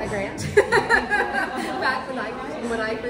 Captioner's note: laughs